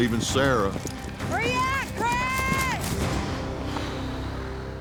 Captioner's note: exhaling deeply